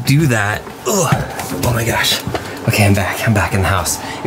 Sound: groans

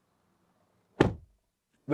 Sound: door Thud

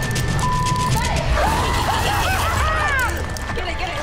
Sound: clown evilly laughing

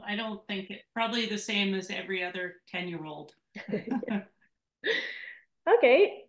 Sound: laughs

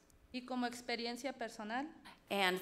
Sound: speaks foreign language

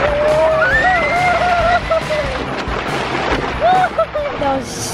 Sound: screaming

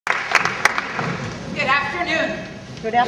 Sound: audience applause

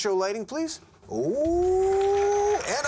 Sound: cheers and applause

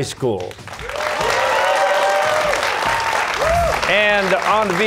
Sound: cheers and applause

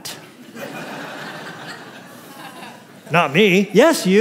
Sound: laughter

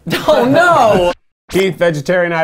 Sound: laughs

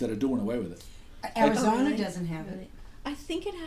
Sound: voiceover

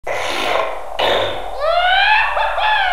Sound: audible Coke Snorting

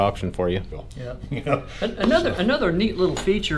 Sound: agreeing

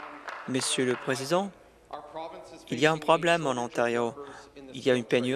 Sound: applause

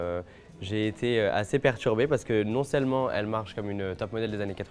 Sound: speaking French

